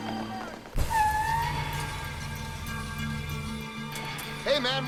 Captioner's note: truck tires screeching; slow music